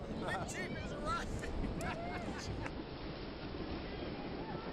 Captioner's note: laughs